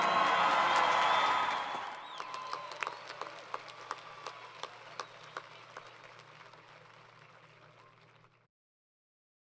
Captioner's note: crowd Cheering & Applause